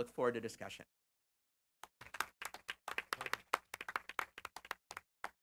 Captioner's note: applause